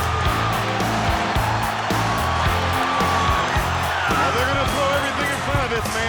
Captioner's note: crowd cheering